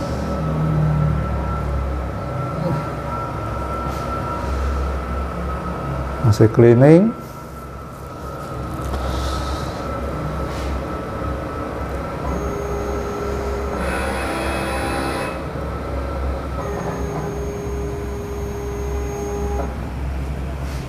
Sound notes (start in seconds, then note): 6.9 printer machine noise